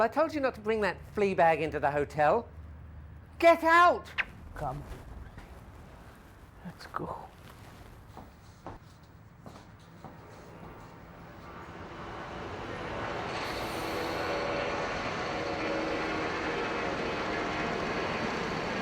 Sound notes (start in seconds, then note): 11.9 airplane whirring